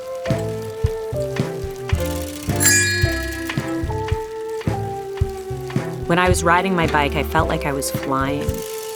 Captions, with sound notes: (rings) When I was riding my bike, I felt like I was flying.